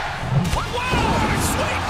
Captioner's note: crowd cheering